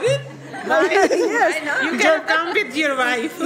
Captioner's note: laughing